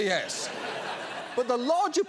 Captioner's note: audience laughs